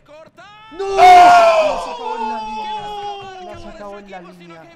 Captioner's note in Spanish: grita